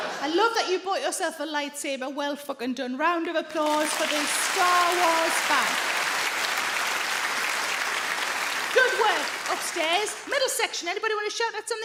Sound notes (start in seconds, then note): 5.8 audience clap